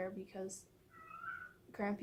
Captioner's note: Peanut meowing